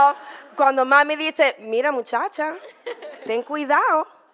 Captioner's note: audience laughter; in foreign language